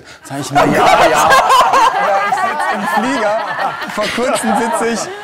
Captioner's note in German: Lachen